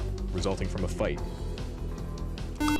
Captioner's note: buzzer